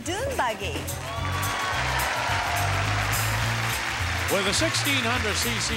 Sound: audience cheering

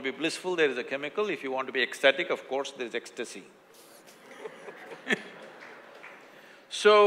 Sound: laughter

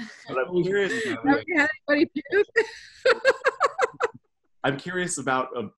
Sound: laughs

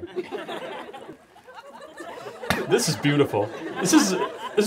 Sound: audience laughs

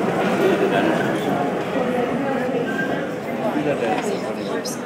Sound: cacophony of main hall fades, voices become dampened

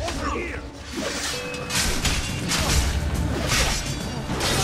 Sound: fighting sounds

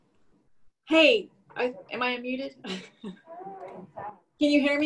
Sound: laughs

